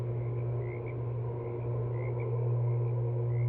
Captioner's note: electrical lines hum